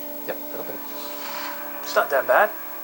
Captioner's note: sniffing